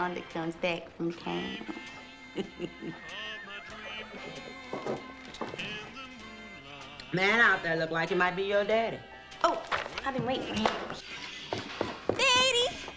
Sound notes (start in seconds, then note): 3.8 horse neighs; 4.0 chuckling